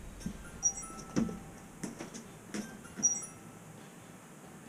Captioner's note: phone ringing